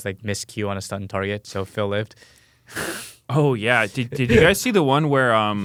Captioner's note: laughs